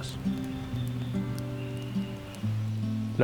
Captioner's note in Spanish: crepitar del fuego